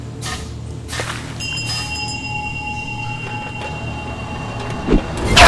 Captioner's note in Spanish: Pasos animatrónicos; Cascabeleo de cascabel